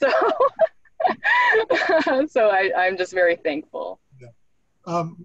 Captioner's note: laughs